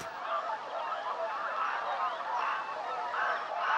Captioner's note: swans cawing